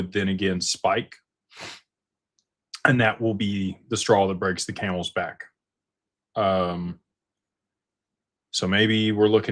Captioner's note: snorts